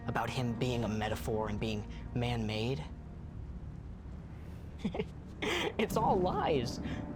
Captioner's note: chuckles